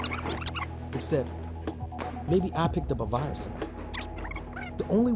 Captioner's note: voiceover